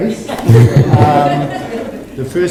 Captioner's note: audience laughs